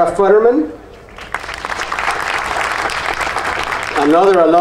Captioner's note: audience applauding